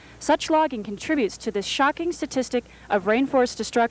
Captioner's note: none